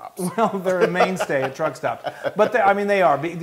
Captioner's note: laugh